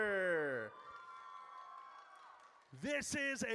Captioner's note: audience cheers